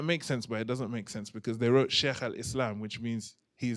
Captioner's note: non-english